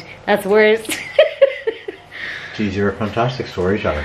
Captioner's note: laughs